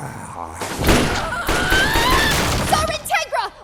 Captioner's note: vampiric growling; yelling